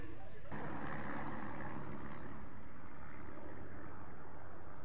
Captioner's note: planes flying